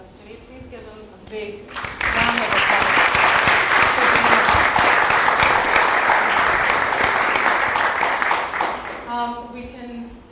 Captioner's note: applause